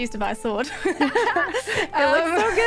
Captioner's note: laughter